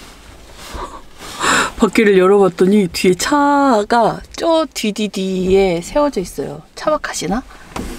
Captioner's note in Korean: 놀람